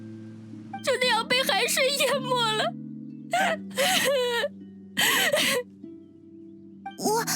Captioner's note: sobs